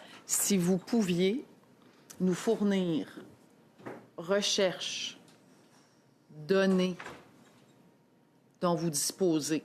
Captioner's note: speaking French